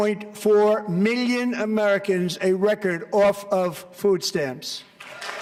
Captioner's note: applause